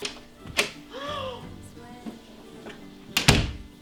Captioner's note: gasp